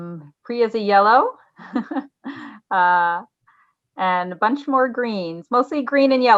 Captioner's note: chuckles